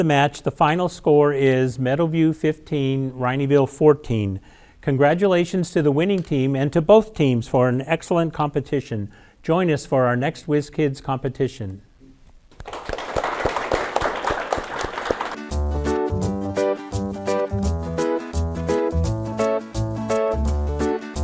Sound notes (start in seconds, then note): 12.5 audience applauding